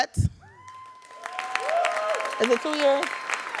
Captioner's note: audience cheering and applauding